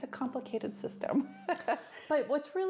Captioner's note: laughs